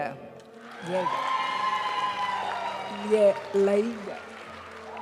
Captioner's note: audience cheering and applauding; graduation music